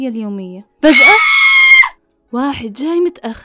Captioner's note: woman shrieking